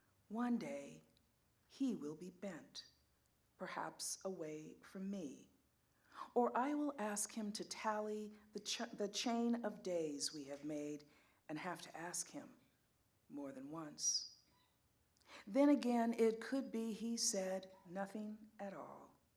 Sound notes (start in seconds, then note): none